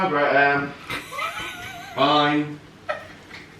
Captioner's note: laughs